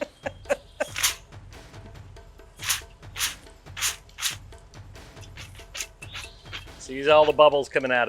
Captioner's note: laughs; spurting and gurgling